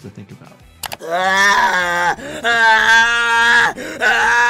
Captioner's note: Speedy screaming